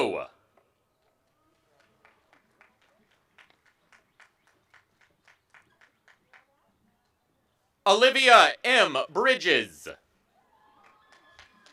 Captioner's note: applause